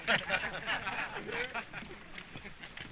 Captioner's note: all laughing